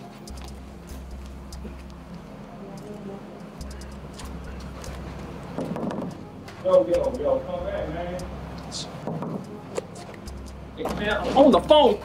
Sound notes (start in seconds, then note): 0.2 suspenseful music; 3.7 Malik taps; 9.0 Malik taps